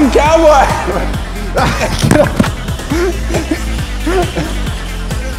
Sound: laughter

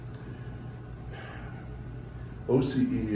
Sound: sighs

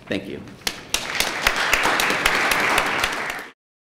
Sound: applause

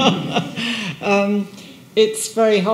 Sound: person laughing

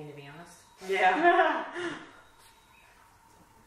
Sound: laughs

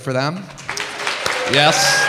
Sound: audience cheering

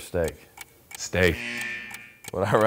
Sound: buzzer blaring

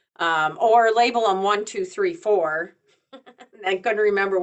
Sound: chuckles

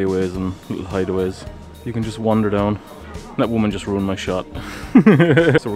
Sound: laughs

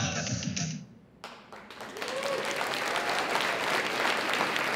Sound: audience applauds

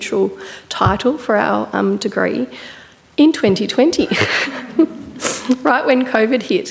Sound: laughs

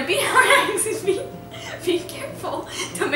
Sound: giggling

